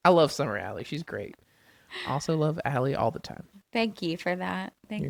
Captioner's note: laughs